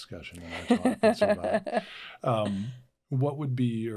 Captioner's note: laughing